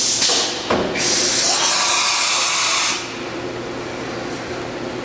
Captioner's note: machine hisses and whines